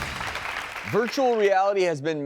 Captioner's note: applause